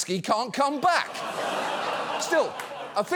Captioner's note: studio audience laughs